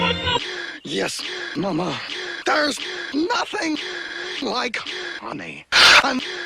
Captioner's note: gasp; gasppsag; distorted inhale; gasp